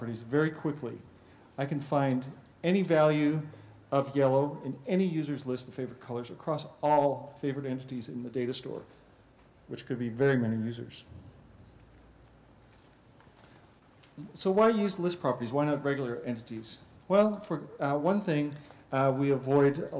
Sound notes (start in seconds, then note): 10.9 pause